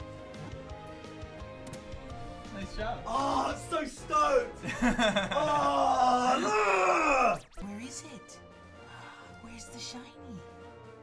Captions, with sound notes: Nice job! - Oh! So stoked! (laughs) - Where is it? Where's the Shiny?